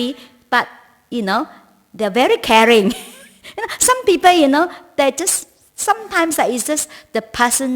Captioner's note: laughs